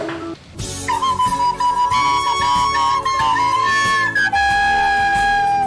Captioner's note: loud squeaky whistling